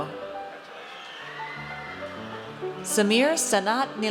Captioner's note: audience cheers